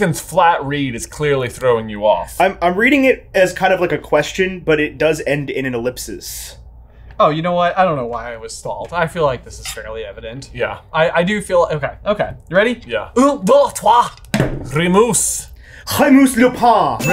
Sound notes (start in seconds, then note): 13.1 speaking foreign language